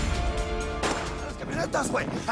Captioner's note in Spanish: Disparos